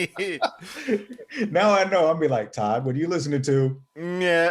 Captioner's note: more laughing